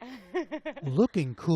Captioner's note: laughter